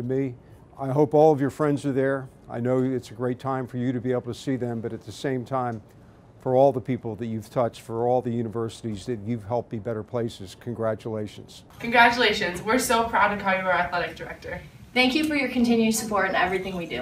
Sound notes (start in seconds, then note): none